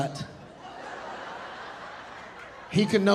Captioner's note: audience laughing